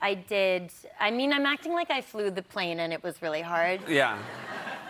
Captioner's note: laughter